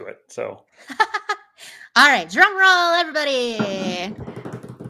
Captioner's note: laughs; hands drum rolling